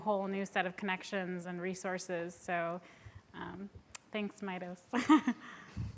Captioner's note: laughs